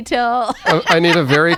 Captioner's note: laughter